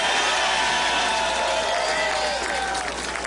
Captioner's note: applause